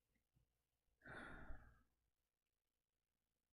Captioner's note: sighs